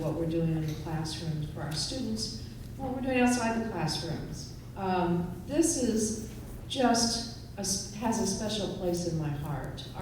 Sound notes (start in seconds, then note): none